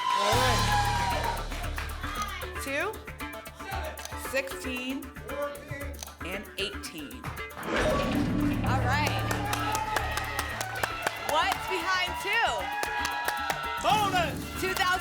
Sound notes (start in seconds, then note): 7.5 lock sound; 8.5 applause